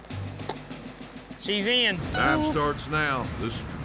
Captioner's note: horn blows